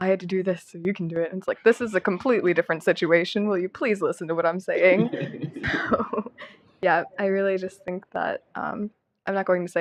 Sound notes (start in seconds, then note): 4.8 laughter